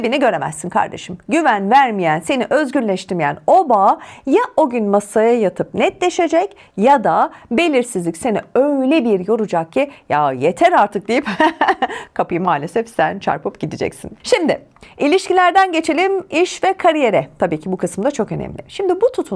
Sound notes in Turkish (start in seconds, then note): 11.2 kahkaha